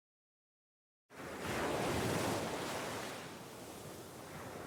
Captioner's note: waves crashing